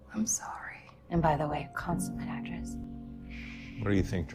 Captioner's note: voiceover